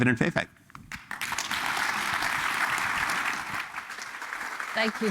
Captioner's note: applause